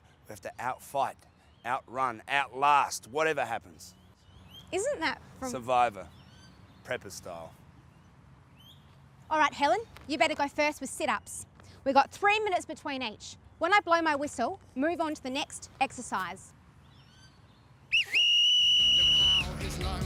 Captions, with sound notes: We have to out-fight, out-run, out-last, whatever happens. Isn’t that from … 'Survivor', prepper style. Alright Helen, you’d better go first with sit ups. We’ve got three minutes between each. When I blow my whistle, move onto the next exercise. (loud whistle)